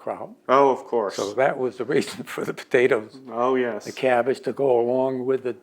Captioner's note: laughs